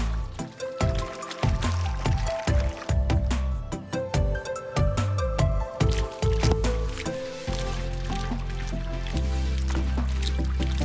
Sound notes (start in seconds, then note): 1.8 water splashing; 7.9 uplifting music